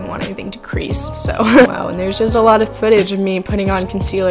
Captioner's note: laughs